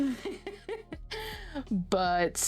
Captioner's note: laughs